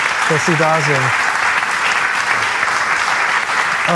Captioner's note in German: Applaus